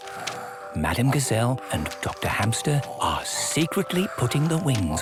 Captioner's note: whispering